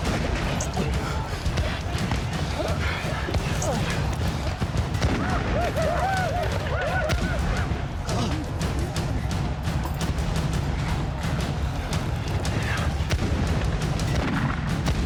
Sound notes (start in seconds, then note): 0.0 breathing heavily; 8.0 groaning